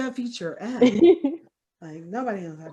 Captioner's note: laughing